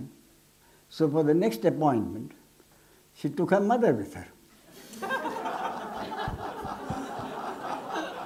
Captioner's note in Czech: smích